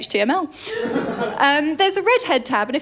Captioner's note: laughter